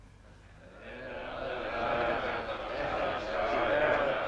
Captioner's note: chieftains chattering